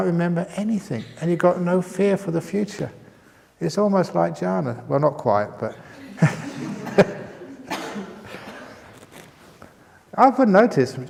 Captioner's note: chuckles